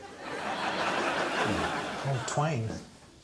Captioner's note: audience laughing